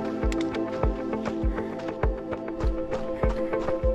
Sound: footsteps crunching

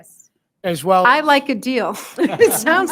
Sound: laughs

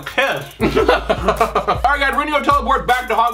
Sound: laughing

